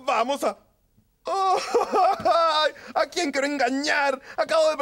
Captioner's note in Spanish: Tulio rompe en llanto